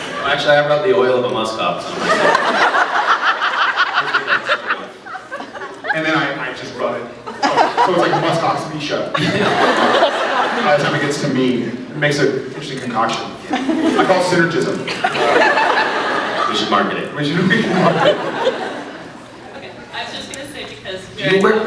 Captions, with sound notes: No actually, I rub the oil of a muskox on myself. [laughs] Gives me that sort of... [laughs] And then I -- I just rub it... from -- so it’s like Muskox Misha... [laughs] [laughs] [laughs] [laughs] by the time it gets to me. It makes a... interesting concoction. Yeah. [scattered laughs] I call it Synergism. Um... [laughs] [laughs] We should market it. We should -- [laughing] We should market it. [laughs] Ok. I was just gonna say because Jared-- Do you wear --